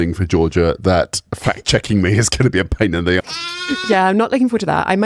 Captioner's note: baa